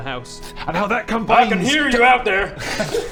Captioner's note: disembodied voice